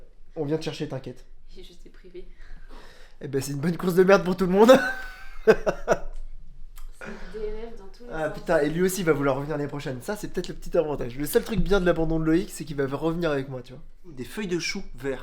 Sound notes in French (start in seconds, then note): 4.6 rires